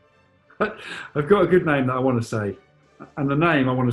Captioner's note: laughs